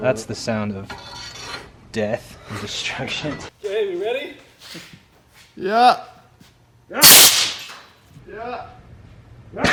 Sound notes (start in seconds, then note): 7.0 banging